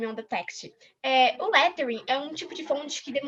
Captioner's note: non-english